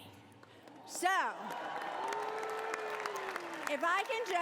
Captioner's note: cheering